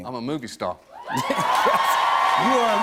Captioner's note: cheers and applause